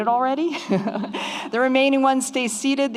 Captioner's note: laughs